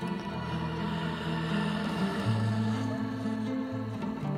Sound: heavy breathing

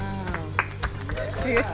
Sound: applause

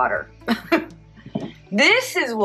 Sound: giggles

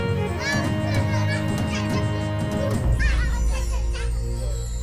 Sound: children nattering loudly

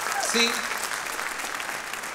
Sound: audience applauding

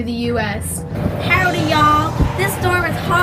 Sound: wind whooshing

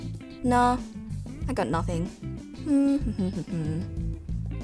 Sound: hums

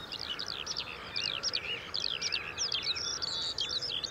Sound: birds singing

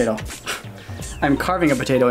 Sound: laugh

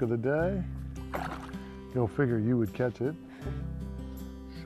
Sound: splashing

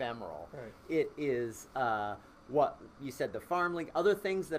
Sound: voice muffled

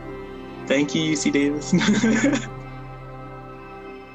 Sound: laughs

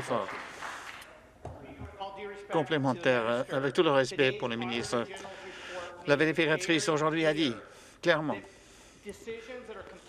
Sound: applause

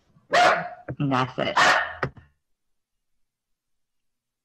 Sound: dog barking

